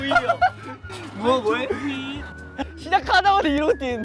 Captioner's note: sigh..It's not easy